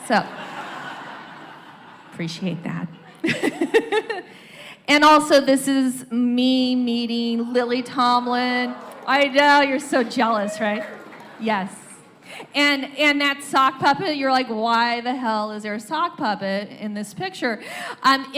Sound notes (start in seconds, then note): 0.2 laughter; 3.0 laughs; 7.3 audience wows; 10.7 cheers, applause